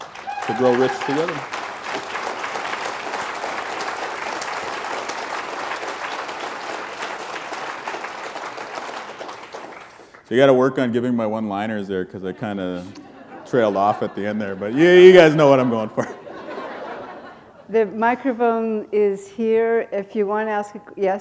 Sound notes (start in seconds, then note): 17.1 chuckle